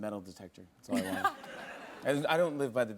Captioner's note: laughter